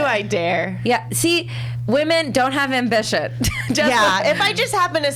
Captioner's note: laughs